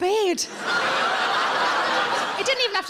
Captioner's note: audience laughing